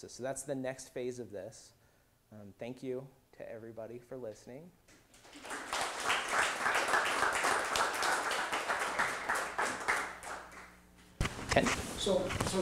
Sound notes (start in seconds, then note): 5.0 applause